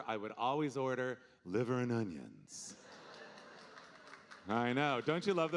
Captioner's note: audience applauding